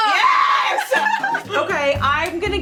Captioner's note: laughing